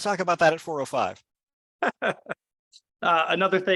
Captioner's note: laughs